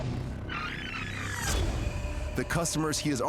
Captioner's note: tape rewinding